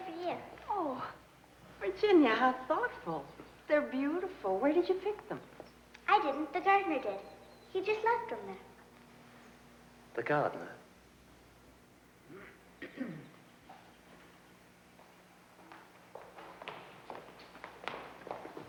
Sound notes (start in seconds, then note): 12.8 Mrs. Umney clears throat